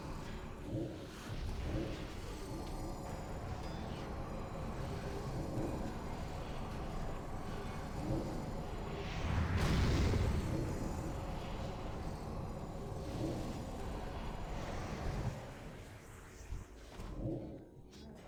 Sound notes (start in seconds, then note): 6.6 thunder rumbling